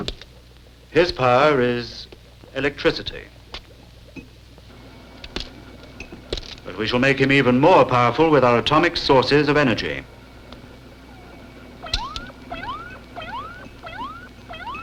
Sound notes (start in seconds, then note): 11.9 beeping